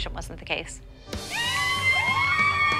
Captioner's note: cheering